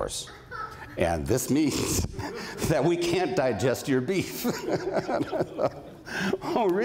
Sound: laughs

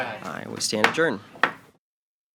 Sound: gavel hitting loudly

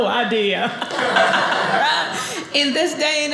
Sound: audience laughing

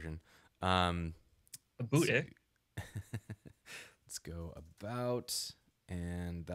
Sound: laughing

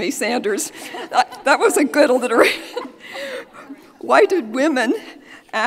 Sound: laughs; audience laughing

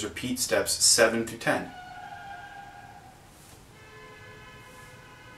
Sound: car skidding and screeching outside window on street

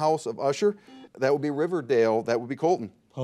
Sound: buzzer dings

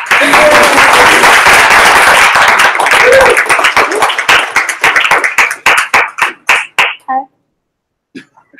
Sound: applause

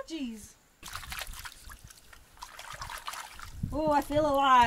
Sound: water splashes

